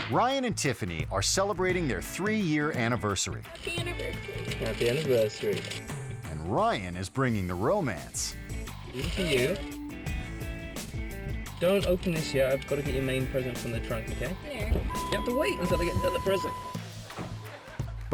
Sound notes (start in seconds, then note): 0.1 icon whooshing; 8.7 upbeat music; 14.6 door signal beeping